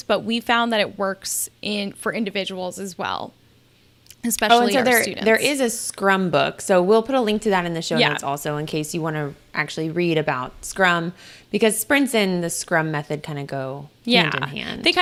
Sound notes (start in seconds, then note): none